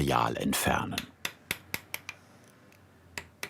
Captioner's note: hammering